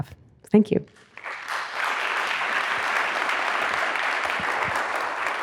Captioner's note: audience applauding